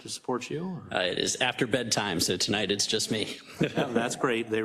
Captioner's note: laugh